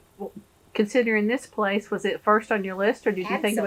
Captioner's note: laughs